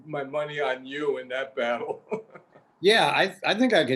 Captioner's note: laughs